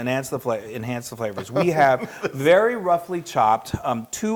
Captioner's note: laugh